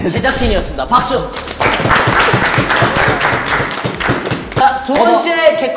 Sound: applause

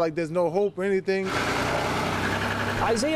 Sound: car engine whirring

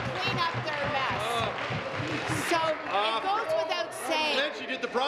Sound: applause

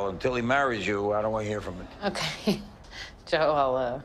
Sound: chuckles

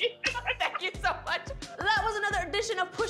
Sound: laughter

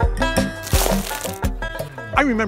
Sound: dirt crunches

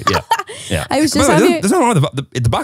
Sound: laughing

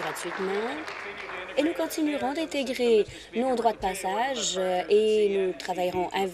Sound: applause

